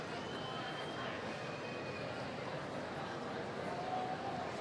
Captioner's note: audience member whistles